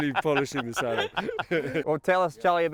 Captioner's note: laughing